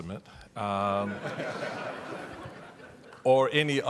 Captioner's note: audience laughing